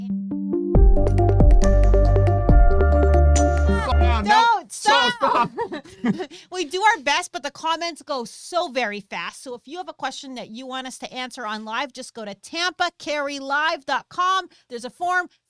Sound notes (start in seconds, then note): 0.1 lively music; 5.2 both chuckling